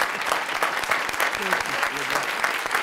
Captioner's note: applause